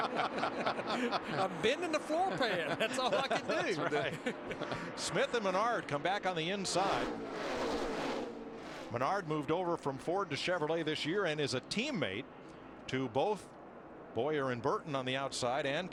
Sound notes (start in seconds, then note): 5.9 laughter